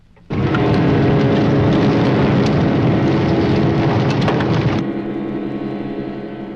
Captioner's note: flames crackling; dramatic music